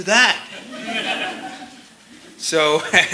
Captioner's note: laughter